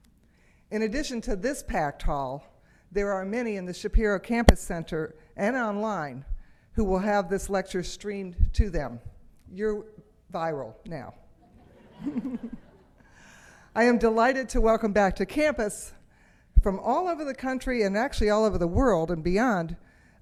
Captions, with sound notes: In addition to this packed hall, there are many in the Shapiro Campus Center and online who will have this lecture streamed to them. You're viral now. (audience laughs) I am delighted to welcome back to campus from all over the country, and actually all over the world and beyond